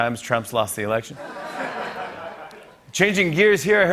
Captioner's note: laughter